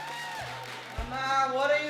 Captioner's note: audience applauding